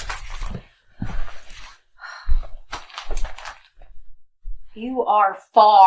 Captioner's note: paper rustling